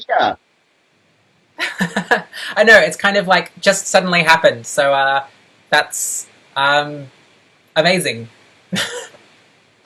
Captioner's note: laughs